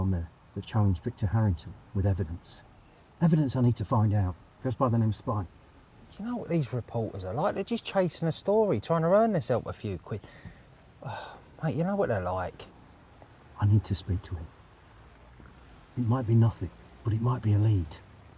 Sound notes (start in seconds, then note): 11.0 sighs